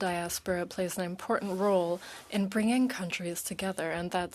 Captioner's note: speaking French